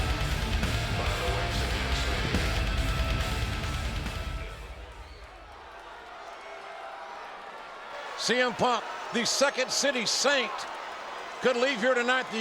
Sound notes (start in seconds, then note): 0.0 upbeat rock music; 5.7 audience chattering